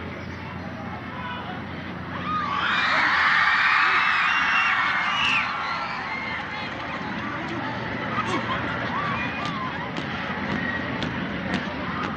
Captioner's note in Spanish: aplausos